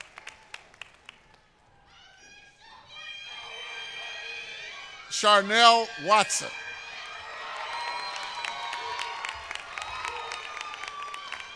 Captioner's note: applause